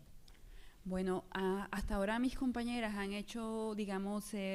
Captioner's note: speaking spanish